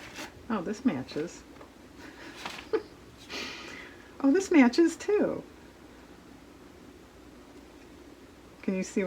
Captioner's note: laughs